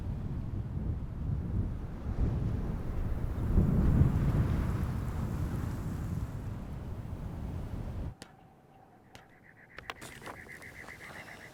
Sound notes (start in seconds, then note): 1.5 wind breezing; 8.3 birds chirping